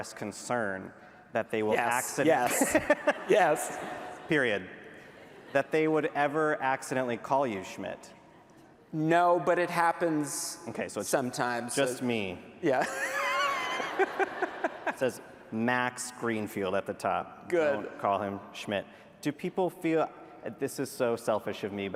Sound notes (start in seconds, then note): 12.7 laughter